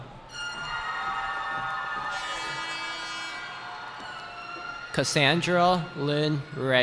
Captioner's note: cheering